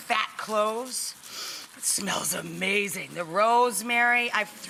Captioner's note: sniffs